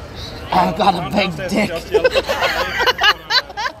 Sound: normal voice

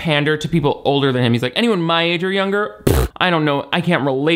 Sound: scoffs

